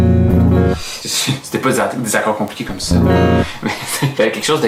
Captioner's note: laughs